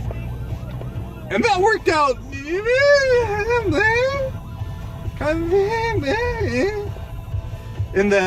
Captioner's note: high pitched, wordless vocalization of "pretty okay, I guess?"